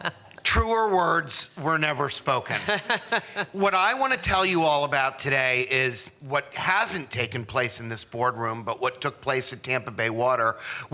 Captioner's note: laughter